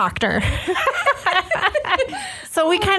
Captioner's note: laughs